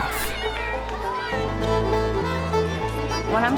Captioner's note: cheering and yelling